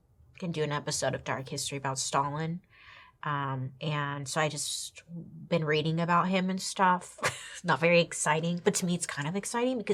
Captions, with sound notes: Gonna do an episode of "Dark History" about Stalin. And so I just been reading about him and stuff (laughs). It's not very exciting, but to me it's kind of exciting